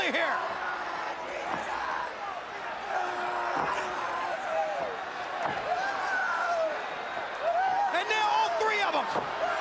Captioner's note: crowd chatter